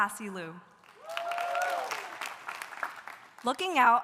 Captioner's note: audience applauding; audience cheering